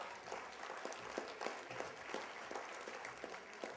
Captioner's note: applause